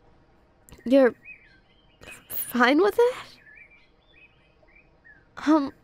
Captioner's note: groan